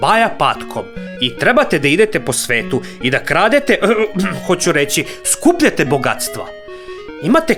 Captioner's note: coughed